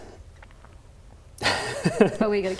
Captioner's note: laughs